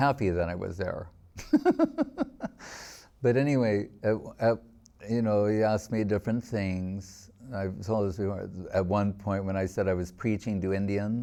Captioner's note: laughing